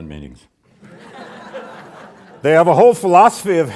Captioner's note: audience laughs